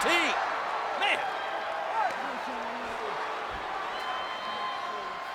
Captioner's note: crowd shouting